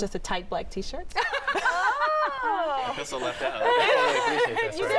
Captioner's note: laughter